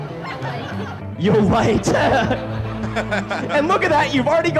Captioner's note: laughs